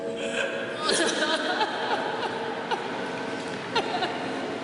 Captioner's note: wailing